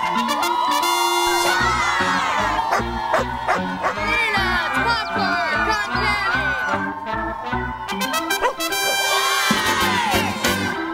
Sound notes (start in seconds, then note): 0.0 screaming cheering; 3.8 barking; 7.1 cheering countinues